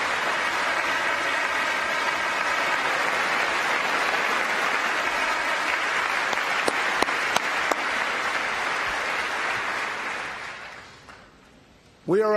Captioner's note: applause